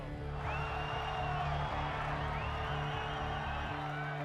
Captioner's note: crowd cheering, yelling